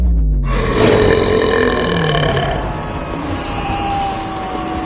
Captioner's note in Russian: мощно рыгает